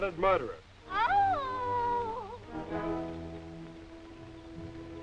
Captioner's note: henrietta wailing